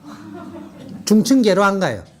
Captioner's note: audience Laughter